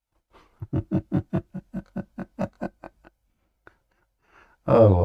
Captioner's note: Ketawa